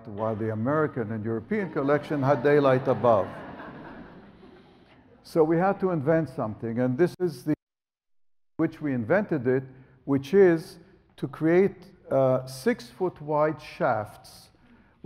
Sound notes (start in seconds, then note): 3.3 audience laughs